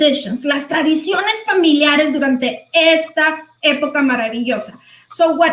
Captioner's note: speaking foreign language